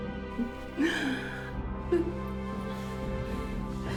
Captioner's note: Faye laughing; dramatic music